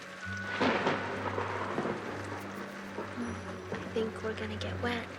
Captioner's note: thunder rumbling